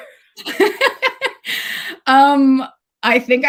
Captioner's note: laughs